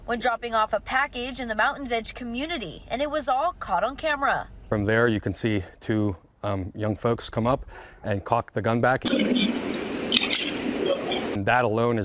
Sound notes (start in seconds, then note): 9.0 nats of gun loading